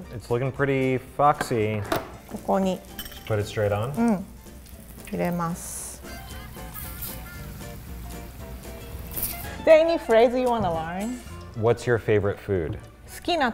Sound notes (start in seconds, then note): 2.4 speaks in foreign language; 4.2 speaks in foreign language; 6.7 oil sizzling; 13.2 speaks in foreign language